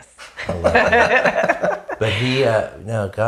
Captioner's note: laughing